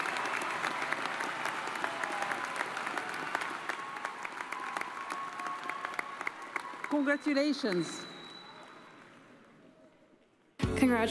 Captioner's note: cheers and applause